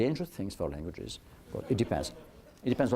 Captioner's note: laughter